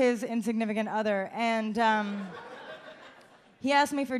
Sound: audience laughs

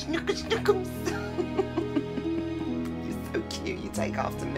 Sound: laughter

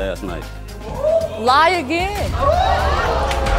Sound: audience oohing

